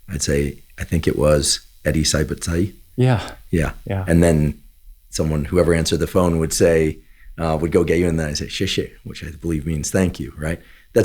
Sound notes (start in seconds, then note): 1.9 speaking Chinese; 8.6 speaking Chinese